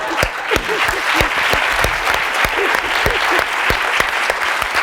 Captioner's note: applause